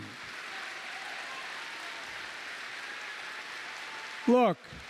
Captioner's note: applause